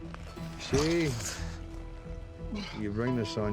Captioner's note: scottish accent